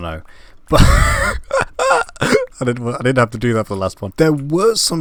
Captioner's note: laugh